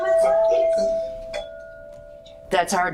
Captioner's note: hand bells